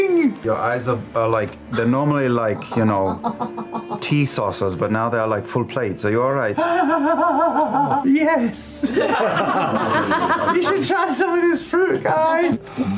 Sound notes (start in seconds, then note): 6.6 gleeful, maniacal laughter; 8.8 laughter